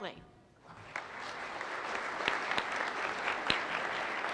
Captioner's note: applause